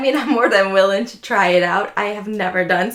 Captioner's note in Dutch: lacht